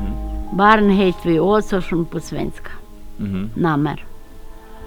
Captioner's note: Swedish